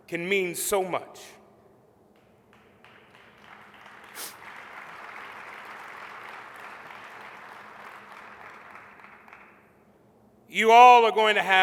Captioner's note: applause